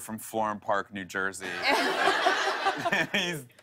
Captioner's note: laughter